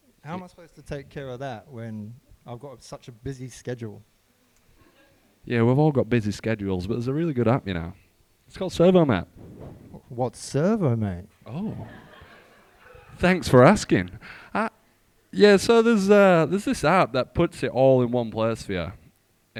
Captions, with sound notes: But, how am I supposed to take care of that when I got such a busy schedule? - Yeah, we've all got busy schedules. But there's a really good app, you know. It's called ServoMate. - What's ServoMate? - Oh? (group laughing) - Thanks for asking. Yeah, so there's this app that puts it all in one place for you.